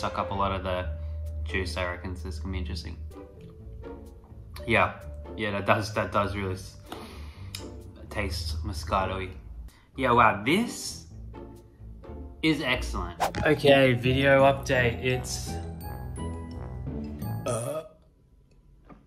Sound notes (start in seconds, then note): 17.4 burps